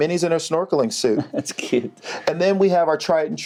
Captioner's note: giggles